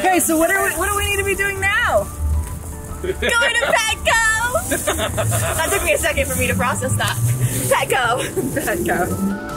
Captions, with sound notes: - Okay, so what do we need to be doing now? - Going to Petco! (Dad laughing) That took me a second for me to process that. Petco. - Petco.